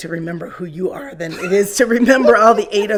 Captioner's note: laughing